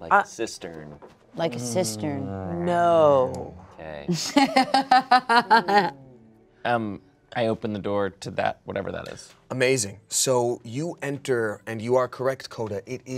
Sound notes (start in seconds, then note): 4.1 laughs